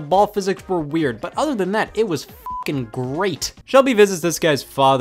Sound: beep

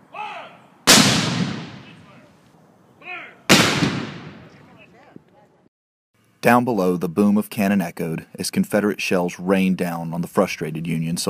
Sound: cannon fire

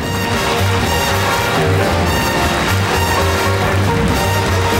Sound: audience applauding; upbeat jazzy music

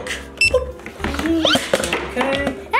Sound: scanner beeps

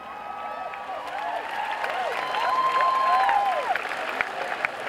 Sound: cheering and clapping

